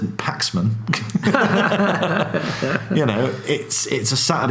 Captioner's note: laughs